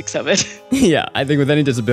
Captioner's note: chuckles